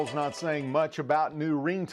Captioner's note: sound of iPhone ringing